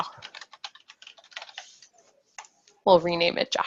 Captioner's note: keyboard keys clacking